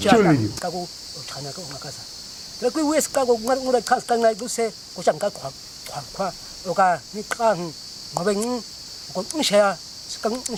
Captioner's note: man speaking a clicking language